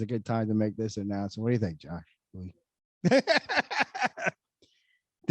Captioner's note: laughs